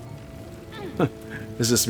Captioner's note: laughs